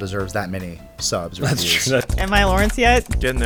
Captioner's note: laughs